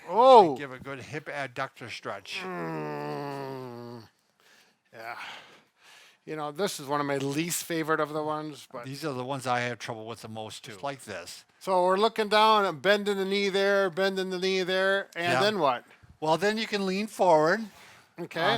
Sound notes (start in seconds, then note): 2.3 groans